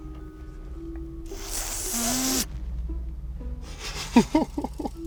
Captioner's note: loud inhalation sound effect; chuckles